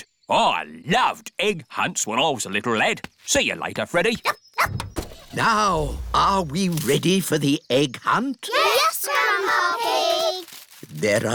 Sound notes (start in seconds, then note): 4.5 barks; 4.7 car engine starts